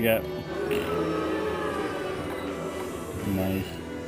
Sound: audience booing

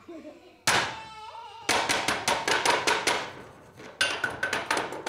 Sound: audience giggling; sticks clattering

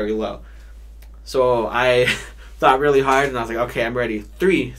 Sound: chuckles

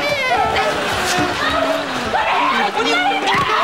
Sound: screaming

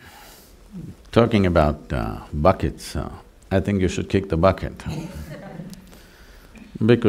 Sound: laughter

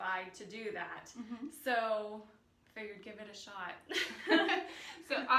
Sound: laughs

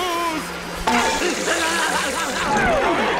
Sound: screaming

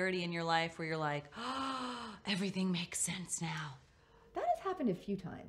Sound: inhales

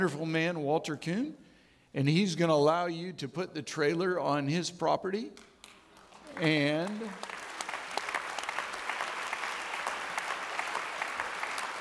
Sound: audience clapping

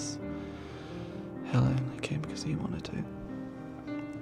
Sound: quietly

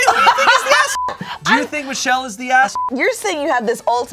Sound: beep; beep

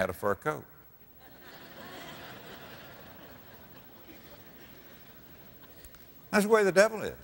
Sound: audience laughter

